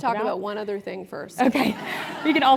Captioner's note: laugh